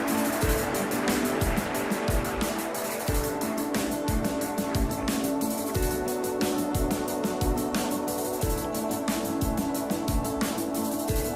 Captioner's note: applause